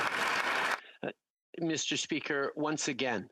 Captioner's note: applause